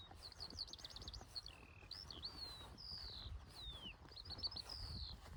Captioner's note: birds singing